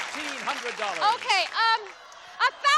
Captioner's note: applause